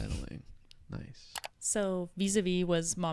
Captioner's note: computer mouse clicking